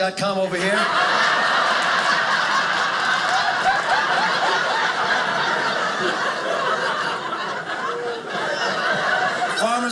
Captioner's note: audience laughing